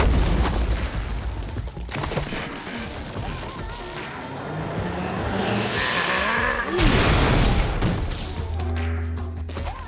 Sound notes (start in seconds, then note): 5.6 growls, grunts